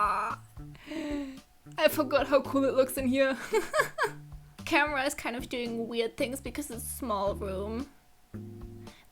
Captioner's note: delightful gasp